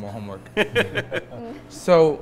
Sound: laughing together

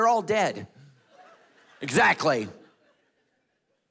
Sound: congregation laughing

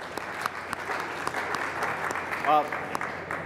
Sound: applause

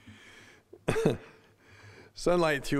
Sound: chuckling

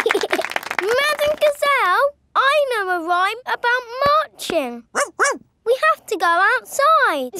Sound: laughing and clapping; barks

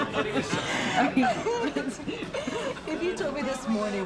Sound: both laughing

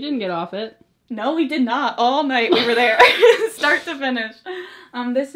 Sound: both laugh

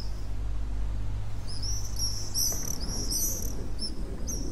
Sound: sound of birds chirping and water

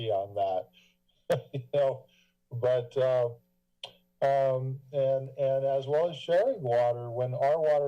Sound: laugh

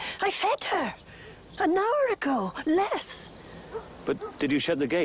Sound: none

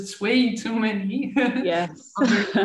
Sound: laughing

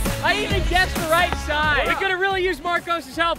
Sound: laughs

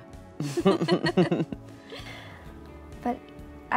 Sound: laughing

